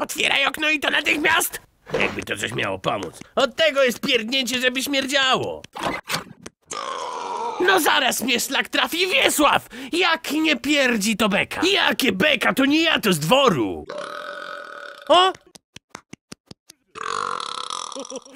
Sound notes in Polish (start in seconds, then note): 6.7 beknięcie; 13.8 beknięcie; 16.9 beknięcie